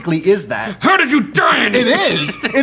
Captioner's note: laughs